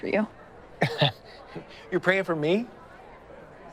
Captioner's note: chuckles